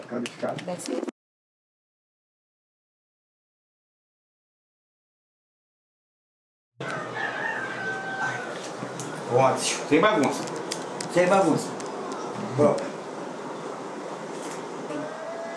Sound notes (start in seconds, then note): 6.8 rooster crows; 10.5 speaks foreign language